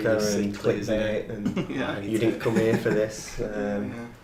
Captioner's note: laughing